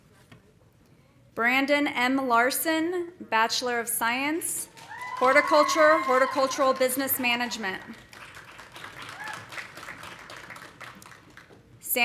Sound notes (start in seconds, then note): 4.8 audience cheering; 7.8 audience applauding